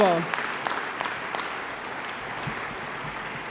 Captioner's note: audience applause